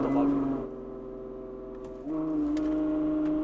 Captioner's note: releasing break pedal